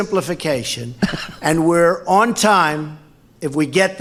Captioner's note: laughs